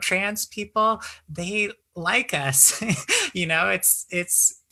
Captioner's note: chuckles